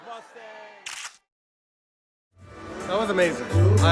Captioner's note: camera shutter clicks